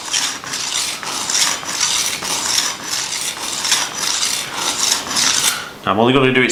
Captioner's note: swooshing noise